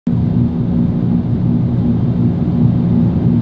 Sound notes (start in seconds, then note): 0.0 fan whirring